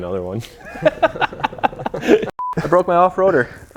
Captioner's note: laughs